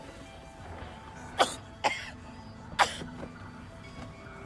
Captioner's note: coughing